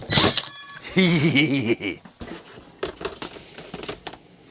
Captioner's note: hee hee hee hee heh